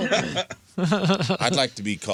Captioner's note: laughing